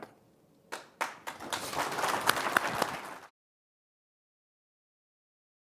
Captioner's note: audience applauding